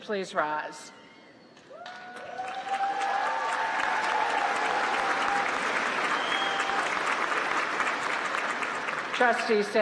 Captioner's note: applause